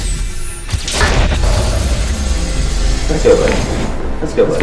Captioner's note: explosion booming